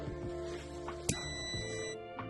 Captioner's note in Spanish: sonido: piiiiiii